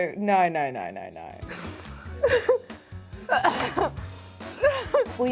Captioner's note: laughs